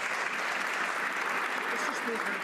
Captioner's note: some Applause